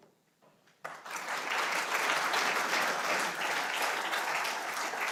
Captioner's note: audience applauding